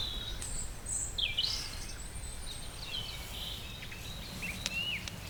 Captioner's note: birdsong; birdsong & fire crackling